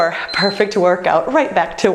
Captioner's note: beeping